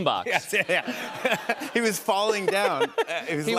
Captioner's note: laughter